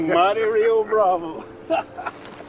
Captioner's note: laughing